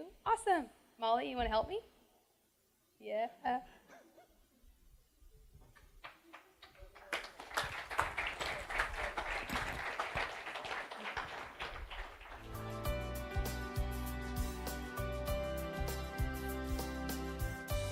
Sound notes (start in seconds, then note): 4.0 applause